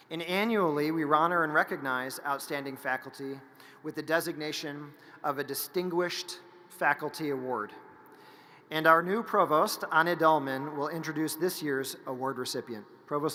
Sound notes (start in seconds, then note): none